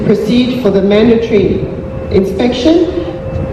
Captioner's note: Tannoy ends